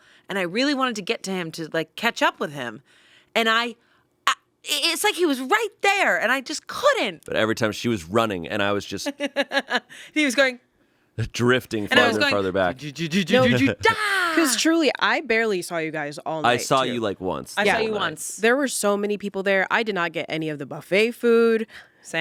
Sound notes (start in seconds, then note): 9.1 laughs; 13.3 yells